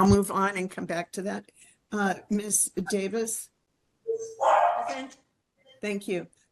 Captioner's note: dog barks